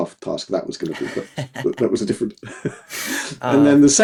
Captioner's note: both laughing